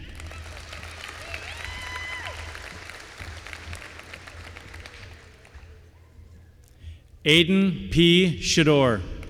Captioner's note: applause